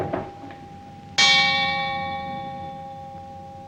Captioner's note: clock strikes